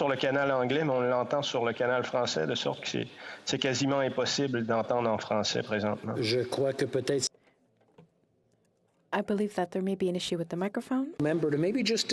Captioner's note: speaking French